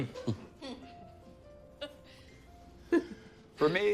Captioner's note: chuckles